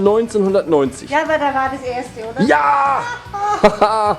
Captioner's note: all cheering